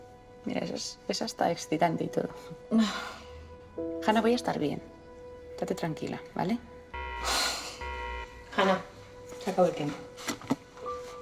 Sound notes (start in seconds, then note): 6.9 alarm